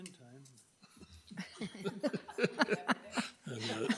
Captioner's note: laughing